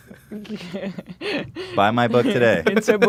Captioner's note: laughs